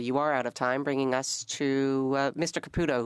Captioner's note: speaking French